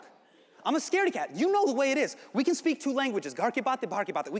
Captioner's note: speaks Hindi